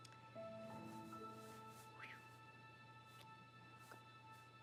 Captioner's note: Debi whistles